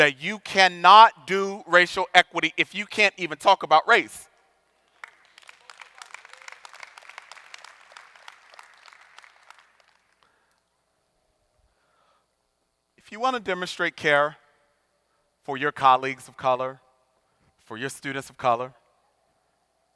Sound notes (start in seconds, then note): 4.8 audience applauding